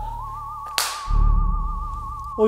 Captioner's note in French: Bang snaps